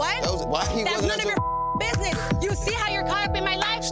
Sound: beep

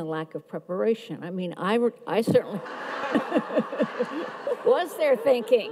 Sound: audience laughs

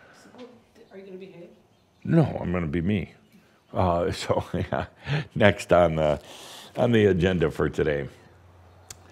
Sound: Adamus chuckles

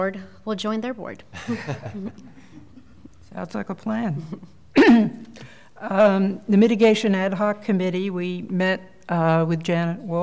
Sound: laughter

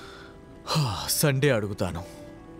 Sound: sighs

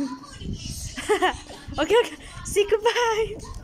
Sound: laughs

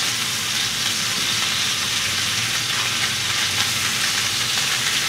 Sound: fish sizzling in pan

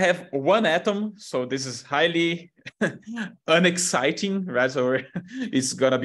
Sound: laughs

